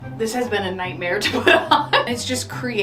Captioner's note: laughs